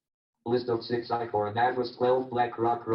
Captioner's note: JAWS speaking disjointedly